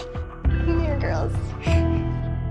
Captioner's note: sniffle